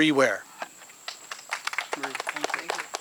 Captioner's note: audience clapping